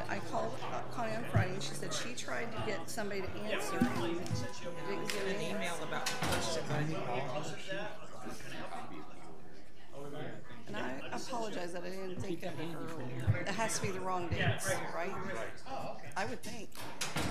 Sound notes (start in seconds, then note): 8.0 people murmuring